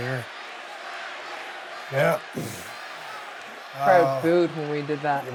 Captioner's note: audience cheering